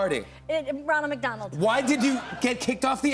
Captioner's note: stammers